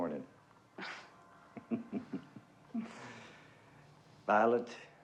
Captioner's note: chuckling